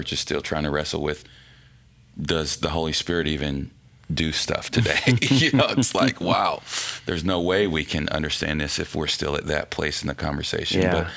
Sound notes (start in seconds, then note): 4.8 laughing